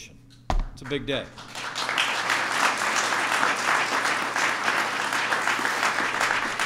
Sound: applause

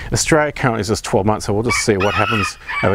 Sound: rooster crowing

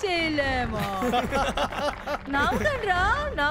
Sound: laughter

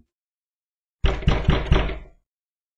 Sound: door knocking heavily

